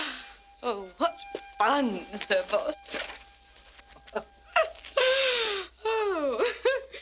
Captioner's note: laughs